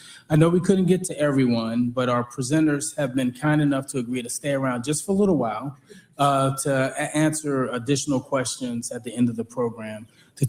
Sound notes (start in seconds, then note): none